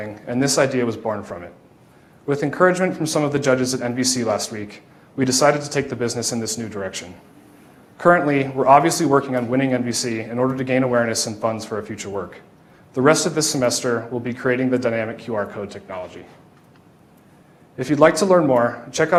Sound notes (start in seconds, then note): none